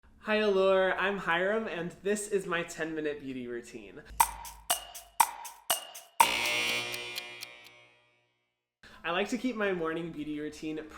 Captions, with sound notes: - Hi allure, I'm Hyram, and this is my 10 minute beauty routine. [clock ticking] [buzzer goes off] I like to keep my morning beauty routine